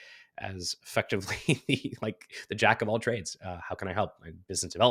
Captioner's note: laughs